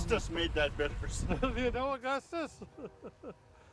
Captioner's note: chuckles